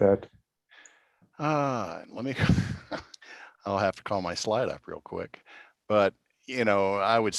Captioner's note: laughter